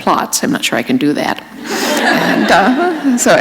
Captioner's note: laughter